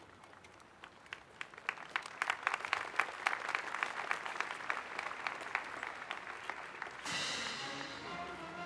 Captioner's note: applause